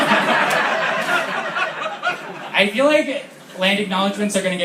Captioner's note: laughter